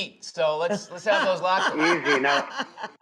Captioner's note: laughs